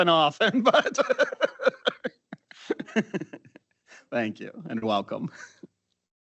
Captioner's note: laughs